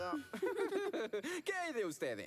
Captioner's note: giggle